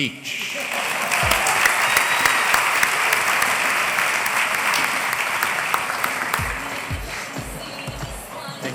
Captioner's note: applause